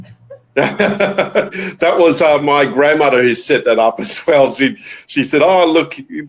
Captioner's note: laughs